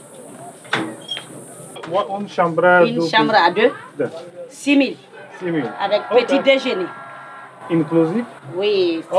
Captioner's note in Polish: rozmowa po francusku